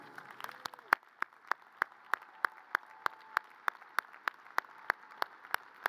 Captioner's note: audience cheers and applause